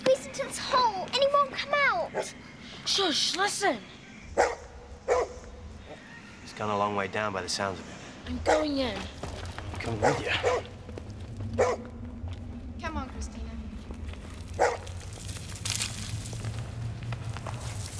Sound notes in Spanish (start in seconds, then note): 5.0 BRUNO Ladra; 14.5 BRUNO Ladra